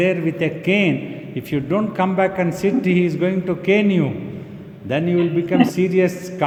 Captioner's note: questioner laughing